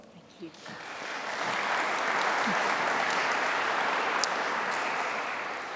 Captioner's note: applause